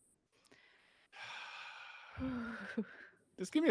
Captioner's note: sighs